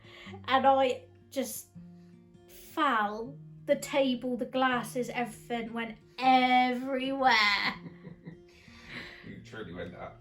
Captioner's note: chuckles